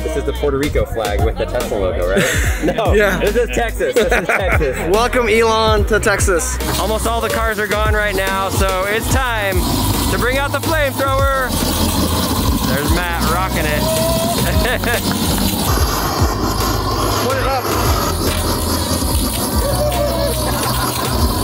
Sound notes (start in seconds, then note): 14.3 air wooshing